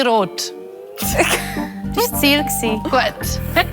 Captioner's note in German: lacht